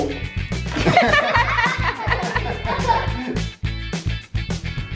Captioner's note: all laugh